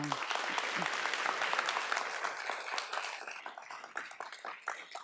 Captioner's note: audience applauds